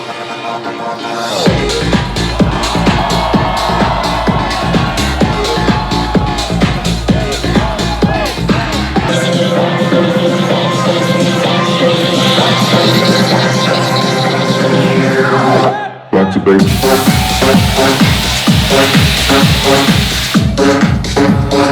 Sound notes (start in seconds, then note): 1.4 crowd cheering; 1.5 beat drops; 5.0 hype electronic dance music; 9.2 beat building up; 16.6 hype electronic dance music; 16.6 beat drops